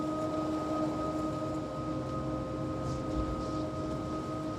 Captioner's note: wind blowing